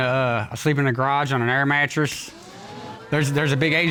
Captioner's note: audience gasping